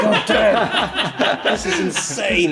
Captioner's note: laughing